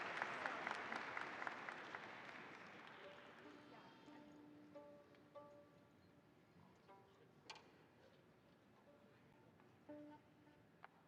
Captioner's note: applause